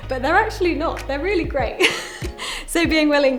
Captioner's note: laughs